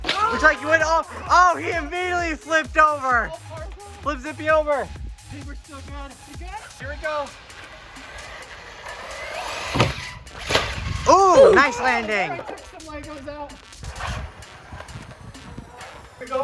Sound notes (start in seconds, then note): 7.2 car revving; 7.8 car slamming down